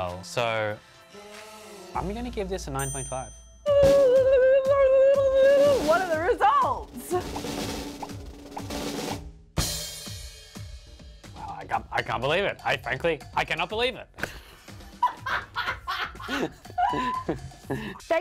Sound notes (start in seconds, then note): 3.7 ululating; 7.3 drum rolls; 15.0 laughing